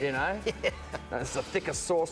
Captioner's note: laughs